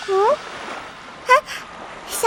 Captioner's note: sigh